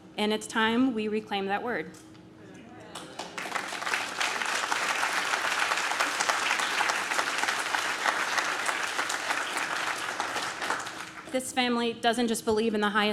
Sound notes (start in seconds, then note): 2.9 audience claps